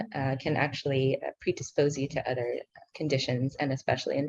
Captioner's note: speaking in foreign language